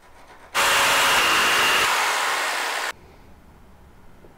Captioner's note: hammer pounding